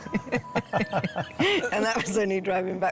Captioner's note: laughter